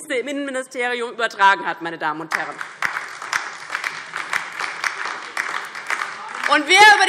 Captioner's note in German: Beifall DIE LINKE und vereinzelt SPD